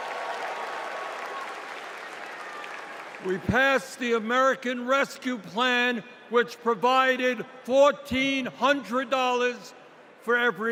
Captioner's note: cheers and applause